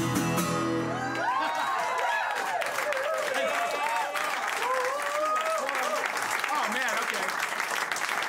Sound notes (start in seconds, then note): 0.7 cheers and applause